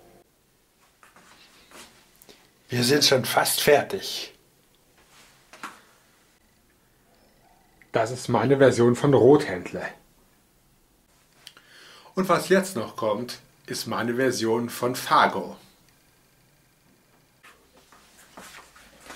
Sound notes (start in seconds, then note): 0.2 pause; 4.2 pause